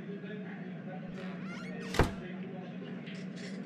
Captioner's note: door open and close